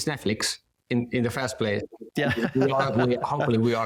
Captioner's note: chuckles